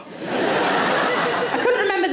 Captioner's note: audience laughing